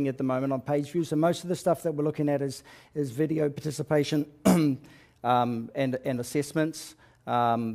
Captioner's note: cough